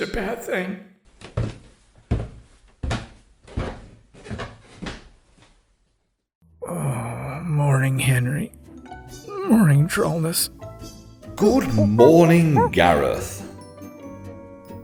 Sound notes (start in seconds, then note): 1.2 slow footsteps down stairs; 11.8 ape noises